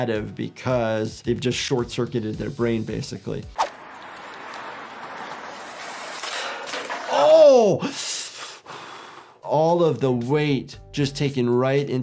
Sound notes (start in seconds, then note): 3.5 graphic whooshes; 5.7 metal clanging; 7.8 gasps